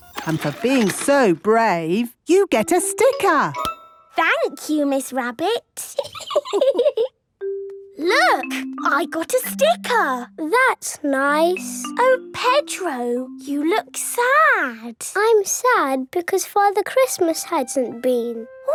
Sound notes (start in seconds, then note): 5.9 laughing